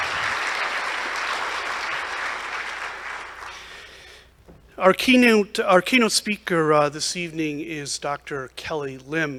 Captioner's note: applause